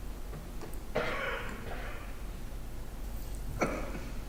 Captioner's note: coughing